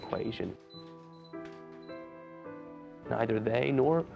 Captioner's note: beeping